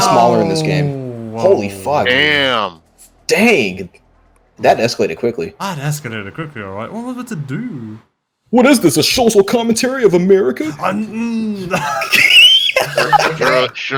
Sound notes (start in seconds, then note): 11.1 gasps and grunts in shock